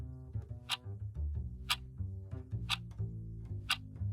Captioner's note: clock ticking